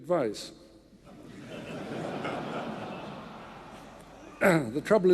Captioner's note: audience laughing